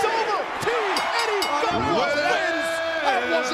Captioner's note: ring bell dinging